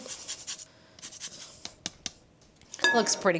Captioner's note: lime scraping